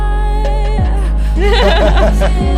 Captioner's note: sonar ping; laughing